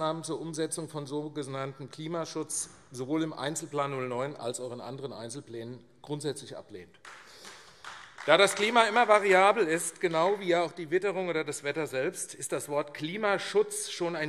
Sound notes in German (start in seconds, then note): 7.0 Beifall AfD